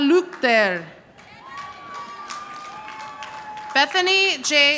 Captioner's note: audience applauding